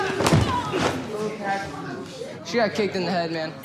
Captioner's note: body hitting floor